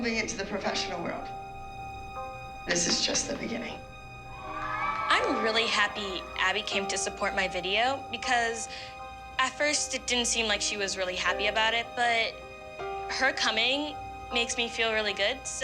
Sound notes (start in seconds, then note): 4.3 cheering